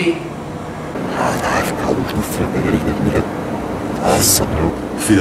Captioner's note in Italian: incomprensibile linguaggio robotico